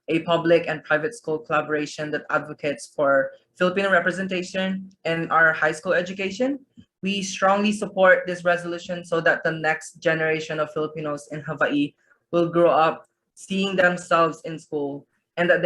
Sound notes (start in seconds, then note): none